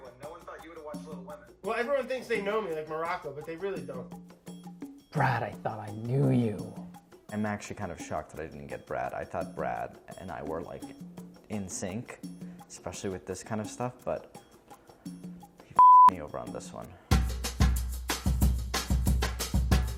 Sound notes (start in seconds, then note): 15.8 beeping; 17.2 upbeat music